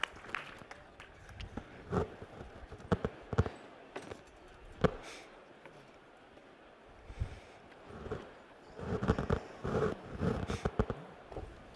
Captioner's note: applause